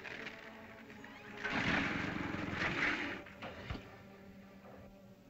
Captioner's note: dinosaur grumbles